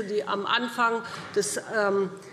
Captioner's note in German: none